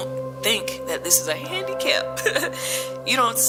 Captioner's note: laughs